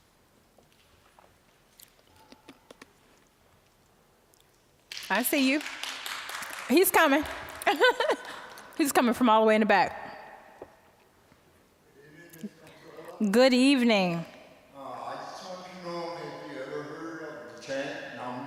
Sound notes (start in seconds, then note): 7.6 laughing